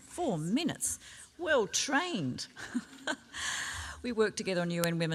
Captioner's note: laughs